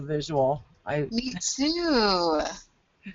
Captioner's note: voiceover